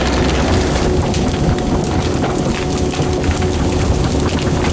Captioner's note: cracking noises